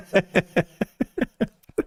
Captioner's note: laughing